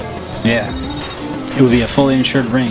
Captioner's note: phone ringing